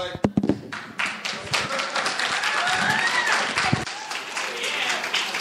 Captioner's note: audience applauding